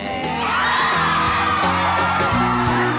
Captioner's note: exuberant cheering